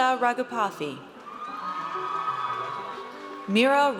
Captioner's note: audience cheers